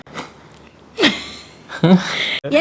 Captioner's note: laughs